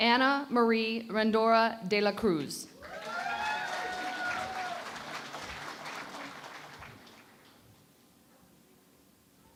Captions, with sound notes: Anna Marie Rendora De La Cruz. [ Cheering and Applause ]